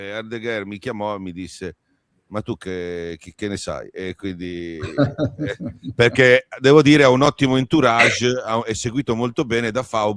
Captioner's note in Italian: risate